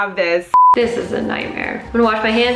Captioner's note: beeping